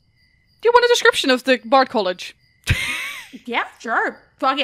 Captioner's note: laughs